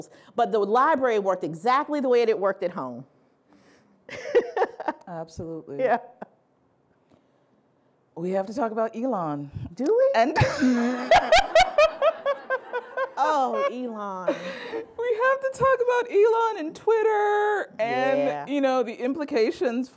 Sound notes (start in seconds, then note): 4.2 laughing; 10.4 laughing